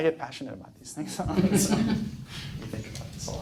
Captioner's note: laughs